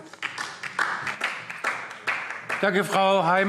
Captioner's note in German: Beifall DIE LINKE